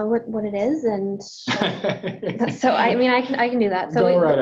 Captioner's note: laughs